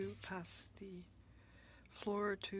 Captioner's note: speaking FRENCH